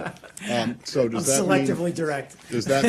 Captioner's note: laughter